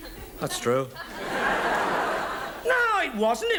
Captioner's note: audience laughs